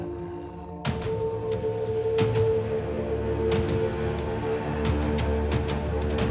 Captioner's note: chilling music continuing; clones snarling